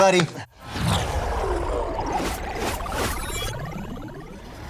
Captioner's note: computer swoosh